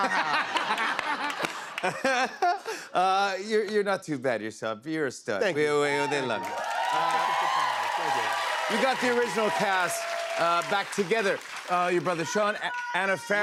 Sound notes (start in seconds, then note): 0.0 laughter; 6.3 cheers and applause